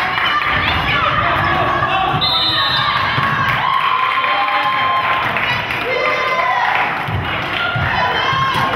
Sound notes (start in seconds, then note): 2.2 whistle blows; 4.9 crowd cheers